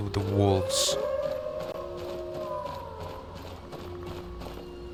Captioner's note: howling